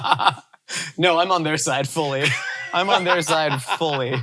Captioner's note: laughs